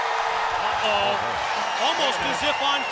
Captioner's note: crowd cheering